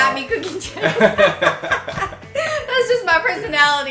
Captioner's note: laughs